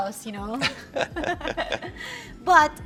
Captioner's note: laughs